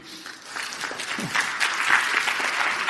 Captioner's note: applause